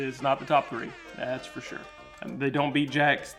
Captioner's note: air horn blasting